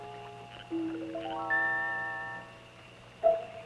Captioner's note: frogs croaking